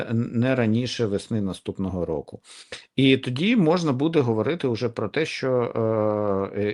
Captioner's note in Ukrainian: сопіння